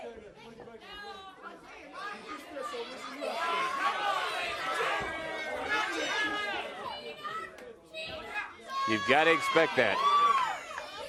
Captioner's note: crowd chatter